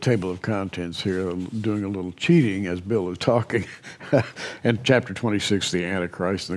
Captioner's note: chuckles